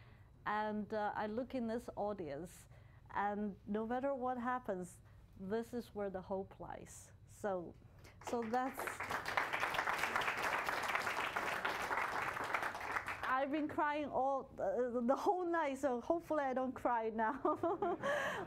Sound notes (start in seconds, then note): 8.2 applause